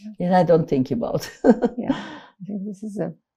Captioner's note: laughing